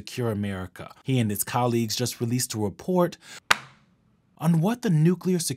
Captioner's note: thwack